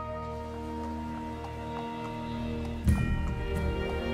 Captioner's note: hooves clomping; exciting dramatic music